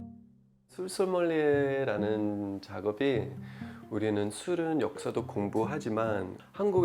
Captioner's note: Korean